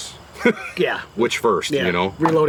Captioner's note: laughs